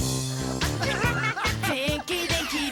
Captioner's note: all laugh